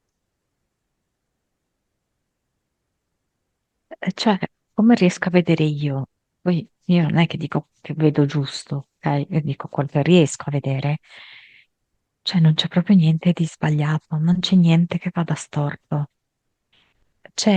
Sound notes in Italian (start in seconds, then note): none